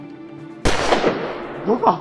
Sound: gunshot

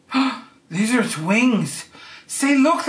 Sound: gasping

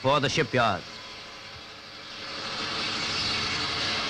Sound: machine sawing

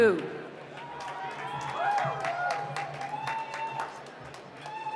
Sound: applause; cheering

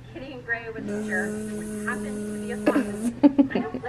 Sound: imitates drilling; giggles

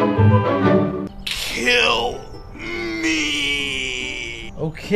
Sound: strained voice

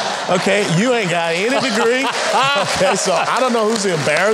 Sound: audience laughing

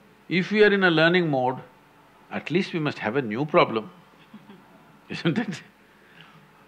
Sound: laughs

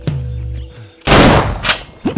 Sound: gunshot

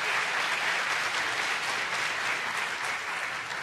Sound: applause

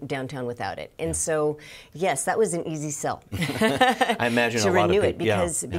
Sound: laughing

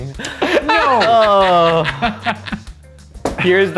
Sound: laughter

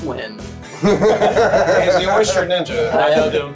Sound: everybody laughing

